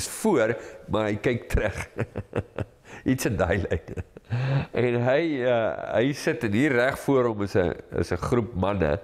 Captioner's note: laugh